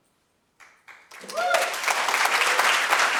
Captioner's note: audience applauds